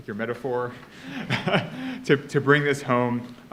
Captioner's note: laughs